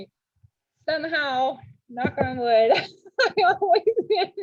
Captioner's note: laughs